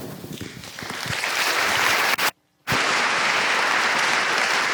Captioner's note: audience applauds